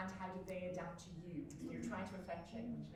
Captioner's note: audience member quietly talking